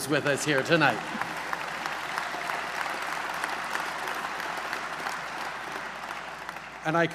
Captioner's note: applause